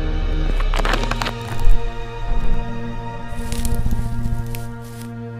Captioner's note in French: bruit de cailloux qui roulent, Arrêt soudain de la musique